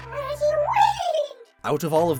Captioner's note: Regiwind cry